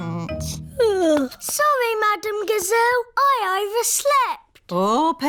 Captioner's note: yawns